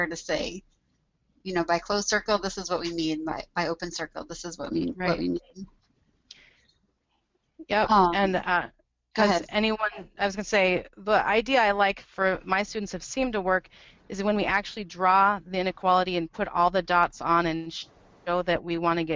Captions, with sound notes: you know, by closed circle, this is what we mean, by open circle, this is what we mean. - [Voiceover] Does anyone, I was gonna say, the idea I like for my students that's seemed to work, is when we actually draw the inequality and put all the dots on and show that we want to get